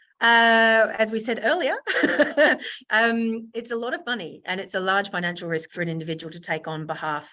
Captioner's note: laughs